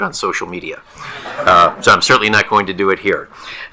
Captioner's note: attendees laughing